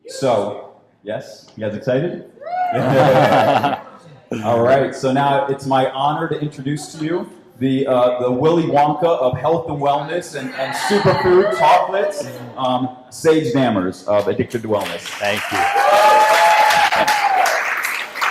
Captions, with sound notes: - So yes, you guys excited? (shouts) (laughing) All right, so now it's my honor to introduce to you the Willy Wonka of health and wellness and super food chocolates, Sage Dammers of Addictive Wellness. (cheering and applause) - Thank you.